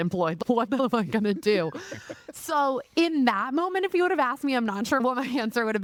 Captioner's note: laughing